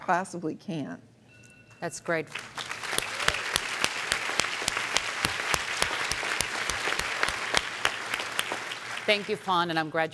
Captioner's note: applause